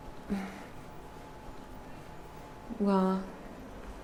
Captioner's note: Leona sighs